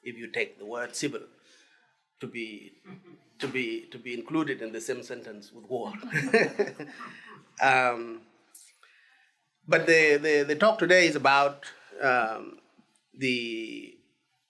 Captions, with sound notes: if you take the word civil to be included in the same sentence with war. (laughs) But the talk today is about the,